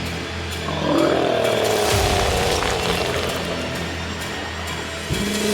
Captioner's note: creature growling